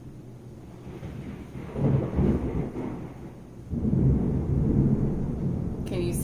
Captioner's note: thunder